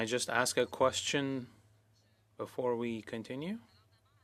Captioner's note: speaking French